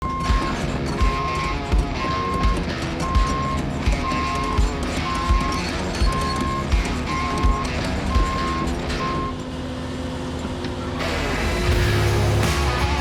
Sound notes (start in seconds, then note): 0.2 vehicle beeping; 3.4 upbeat music